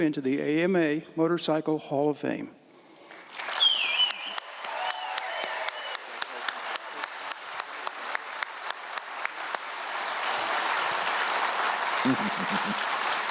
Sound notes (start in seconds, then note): 3.6 applause and cheers from the audience; 6.6 applause, voice of support